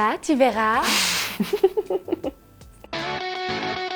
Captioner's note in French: rires